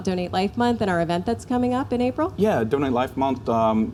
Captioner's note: none